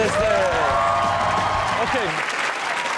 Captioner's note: audience cheers and claps